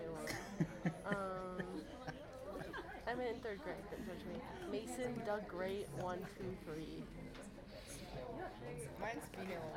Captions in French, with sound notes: [RIRES] Je vais filmer un peu lorsque le spectacle commence et on verra ce que les oiseaux aillent faire.